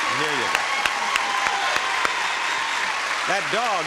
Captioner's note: audience applauding